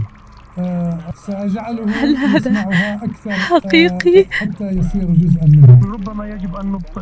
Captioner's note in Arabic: ضحك